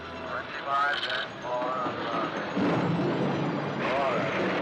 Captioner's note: thunder claps; loud thunder